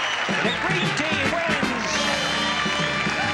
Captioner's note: audience claps and cheers loudly